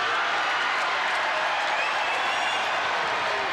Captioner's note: crowd cheers